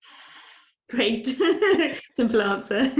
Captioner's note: laughs